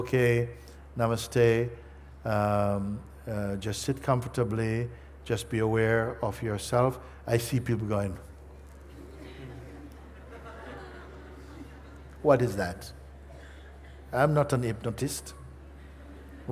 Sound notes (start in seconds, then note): 11.6 Lachen